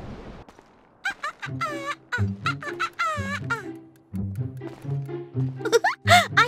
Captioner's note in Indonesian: Tertawa